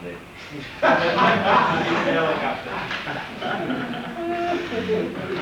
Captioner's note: laughter; laughing